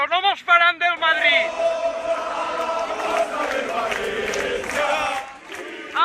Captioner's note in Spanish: cántico típico de Mestalla